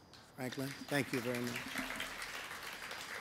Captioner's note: applause